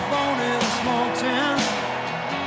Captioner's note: cheers and applause